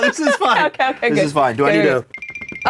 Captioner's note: Lilly laughs